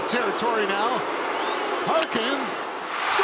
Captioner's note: booing